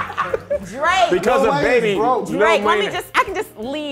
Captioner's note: overlapping chatter